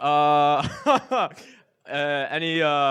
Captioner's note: laughs